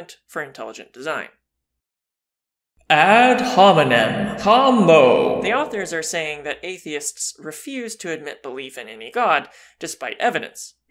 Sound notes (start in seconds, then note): 2.9 voiceover